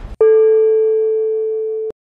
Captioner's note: bell